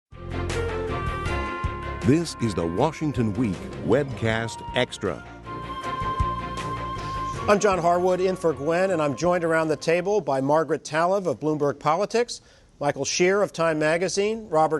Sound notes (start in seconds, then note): 1.9 voiceover